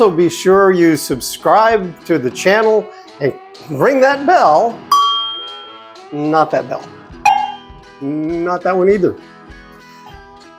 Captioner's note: clink; clank